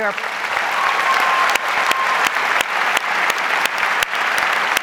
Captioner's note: audience applauds